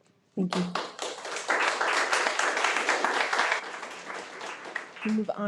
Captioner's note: audience applauding